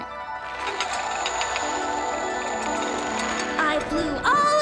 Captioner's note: mechanical whirring